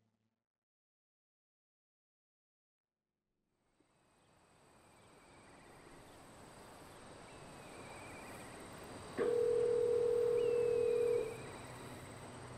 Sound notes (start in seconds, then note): 4.2 birds chirping; 9.2 phone dialing